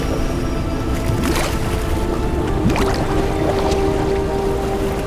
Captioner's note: water bubbling